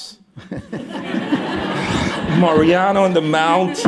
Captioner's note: laughter